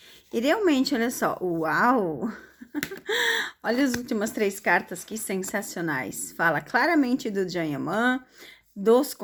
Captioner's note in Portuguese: risadas